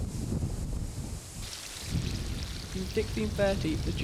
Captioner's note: sounds of a stream